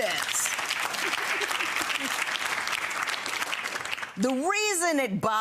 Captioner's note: clapping and laughing